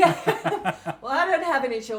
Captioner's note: laughing